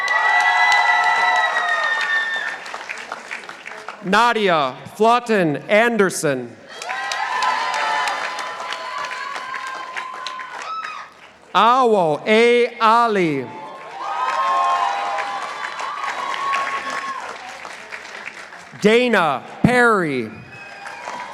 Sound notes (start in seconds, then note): 0.0 participants applauding; 6.7 participants applauding; 12.9 participants applauding